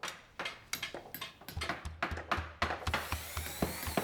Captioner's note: construction noises